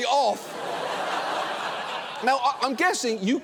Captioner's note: audience laughing